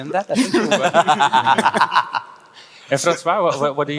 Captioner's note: panelists laughing